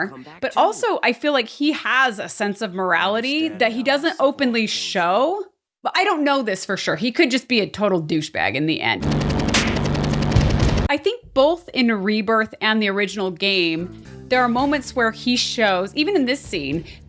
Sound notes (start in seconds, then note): 9.4 slap